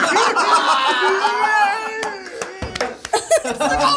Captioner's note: all laugh